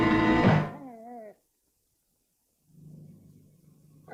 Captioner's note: dog whines